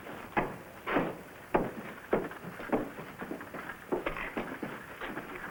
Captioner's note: carriages rattling in distance